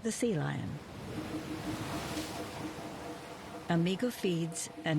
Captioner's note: water splashes